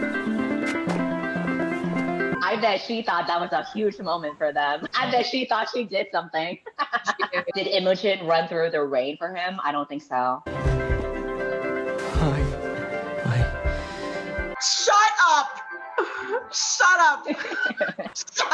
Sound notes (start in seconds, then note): 6.5 laughs